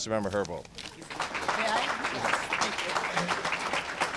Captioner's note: applause